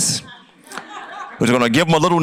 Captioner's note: audience laughs